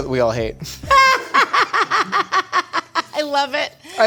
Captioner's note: laughing